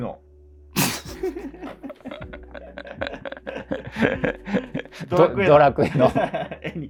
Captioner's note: laughing